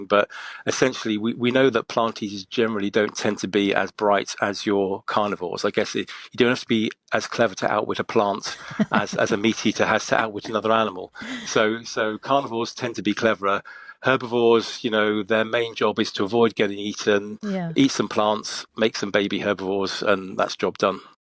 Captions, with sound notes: But essentially we, we know that plant eaters generally don't tend to bright as your carnivores. I guess y-you don't have to be as clever a plant- [laughs] ... as, as a meat eater has to outwit another So, so carnivores tend to be cleverer. Herbivores, you know, their main job is to avoid getting eaten. Yeah. Eat some plants, make some baby herbivores,